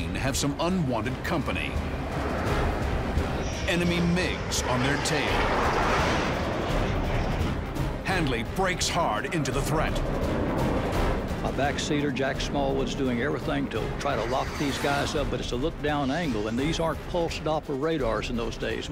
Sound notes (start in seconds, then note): 5.5 planes roaring